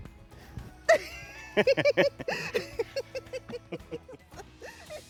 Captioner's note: both laughing